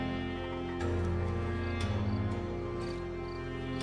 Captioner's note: crickets chirping